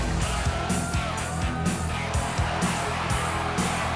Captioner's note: crowd cheering